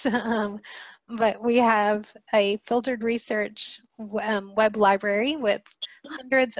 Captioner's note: laughter